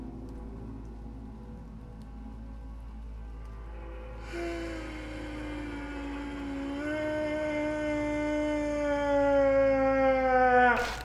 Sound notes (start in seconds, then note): 4.2 ghostly voice sobbing